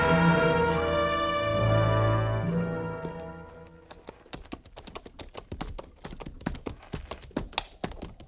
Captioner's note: dramatic music; tapping